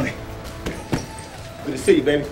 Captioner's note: swing creak; sound of hitting the double end bag